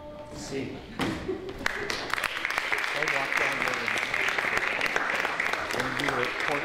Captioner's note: applause